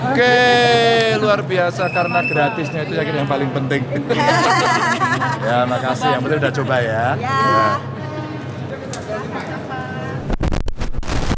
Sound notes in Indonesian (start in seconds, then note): 4.0 tertawa